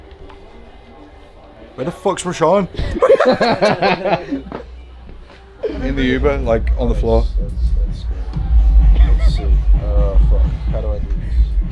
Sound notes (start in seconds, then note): 2.8 laughing